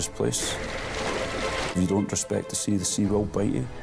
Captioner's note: water sloshing